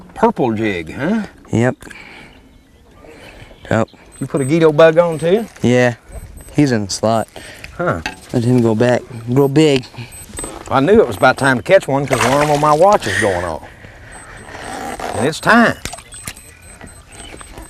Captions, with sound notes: purple jig huh. Yep Did you put a guido bug on too. yeah he is in the slot Huh? let him go back and grow big. I knew it was about time to catch one becuase the alarm on my watch was going off [Beep, beep alarm] and it is time [Beep, Beep]